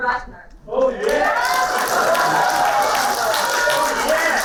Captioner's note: applauding